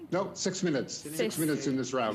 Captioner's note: speaking in French